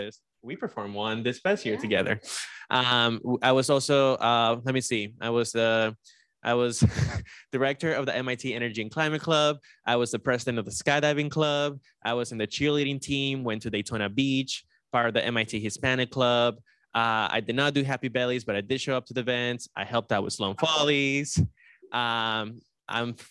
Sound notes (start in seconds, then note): 6.6 laughs